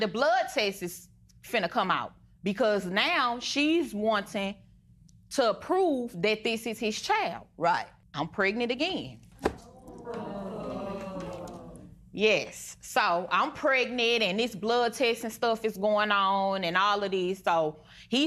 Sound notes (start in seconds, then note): 9.6 spectators murmuring